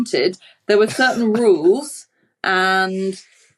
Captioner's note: wheezes